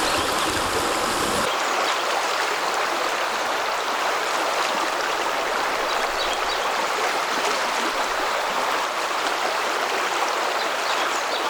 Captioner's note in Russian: шум реки